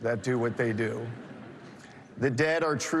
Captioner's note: laughter